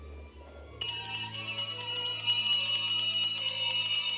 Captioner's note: bell rings